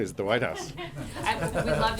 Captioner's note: laughter